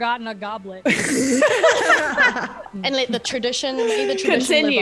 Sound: laugh

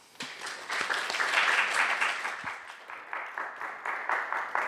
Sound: applause

